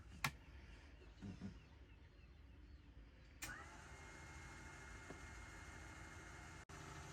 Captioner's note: switch and pump turns on